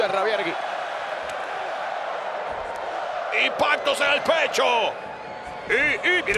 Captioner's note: applause